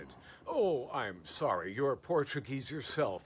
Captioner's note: none